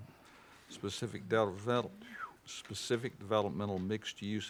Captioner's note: whistles